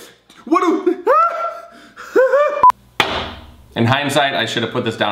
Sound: screaming

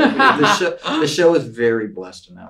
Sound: laughs

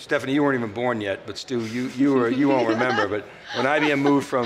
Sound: laughs

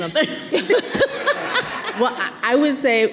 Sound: everyone laughing

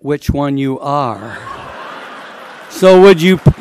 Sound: laughter

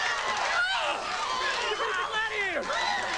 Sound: howl

